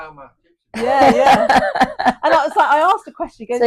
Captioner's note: laughs